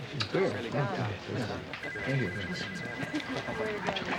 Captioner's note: chatter